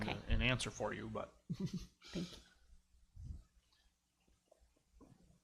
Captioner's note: laughs